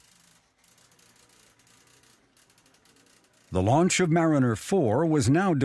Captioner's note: printer whirring